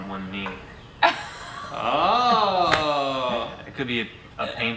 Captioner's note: laughing